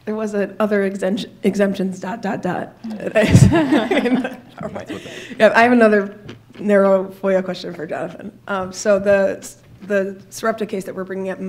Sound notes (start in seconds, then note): 3.1 laughter